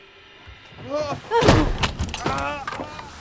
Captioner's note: exclaims; grunts; screaming